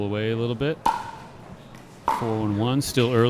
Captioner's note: ball clacking